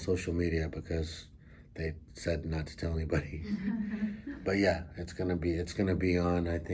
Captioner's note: all laugh